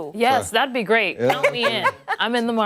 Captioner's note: laughter